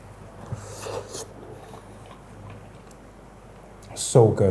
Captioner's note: slurping